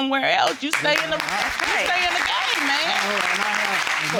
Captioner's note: crowd applauding